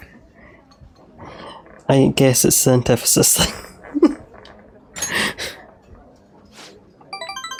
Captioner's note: laughs